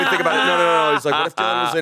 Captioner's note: all laughing